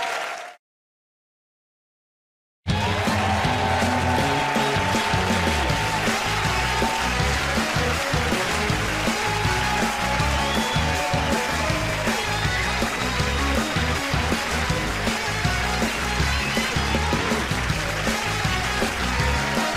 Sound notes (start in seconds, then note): 3.8 cheers and applause